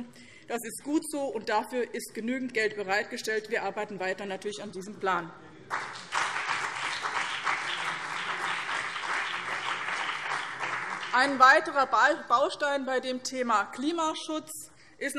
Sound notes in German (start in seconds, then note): 5.7 Beifall BÜNDNIS 90/DIE GRÜNEN und CDU